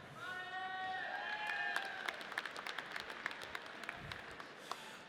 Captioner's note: audience applauds